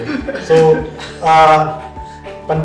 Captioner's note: laugh